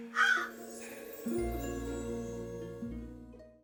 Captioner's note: crow caws